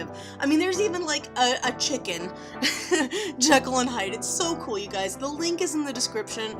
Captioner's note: laughs